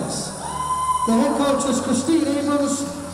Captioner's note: crowd cheering